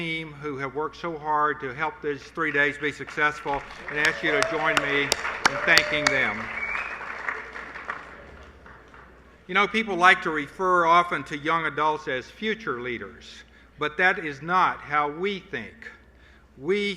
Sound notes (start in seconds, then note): 9.9 applause